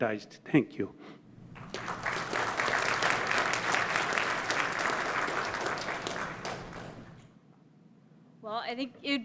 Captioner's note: applause